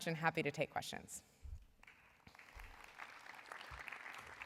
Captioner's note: applause